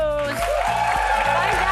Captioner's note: audience cheering